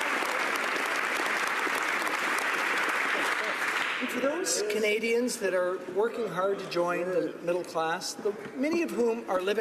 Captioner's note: applause